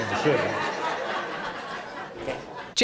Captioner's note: audience laughing